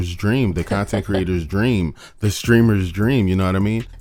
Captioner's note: laughs